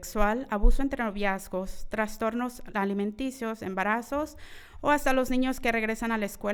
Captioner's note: continues speaking in foreign language